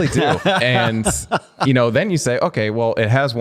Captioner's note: laughter